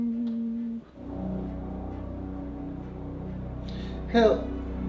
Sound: airplane sound

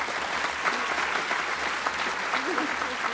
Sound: applause

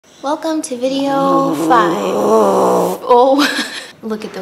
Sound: BIG Pudge snort

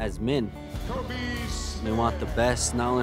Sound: announcer announcing players

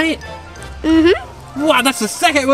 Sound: murmurs in agreement

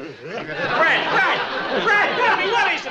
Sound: audience laughs

